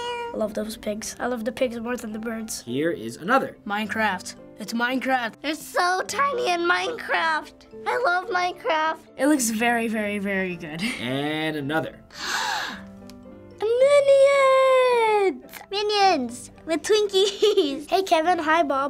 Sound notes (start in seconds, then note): 12.1 deep gasp; 17.2 giggling